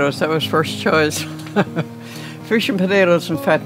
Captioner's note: laughs